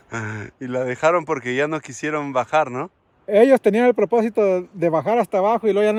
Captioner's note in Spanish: carraspeo